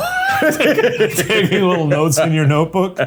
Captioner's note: laughing